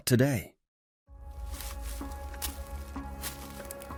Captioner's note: leaves rustling